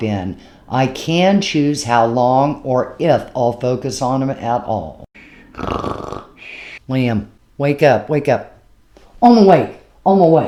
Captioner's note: cat snoring